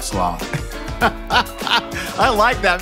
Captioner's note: laughing